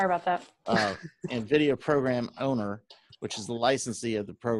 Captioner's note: laugh